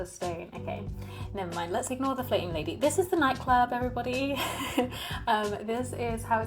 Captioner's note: laughs